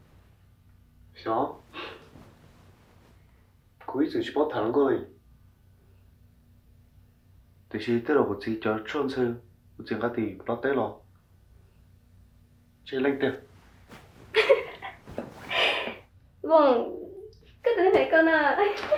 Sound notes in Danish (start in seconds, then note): 14.3 fniser